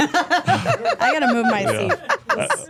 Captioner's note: all laughing